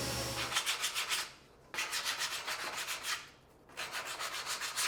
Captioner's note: sandpaper scrapes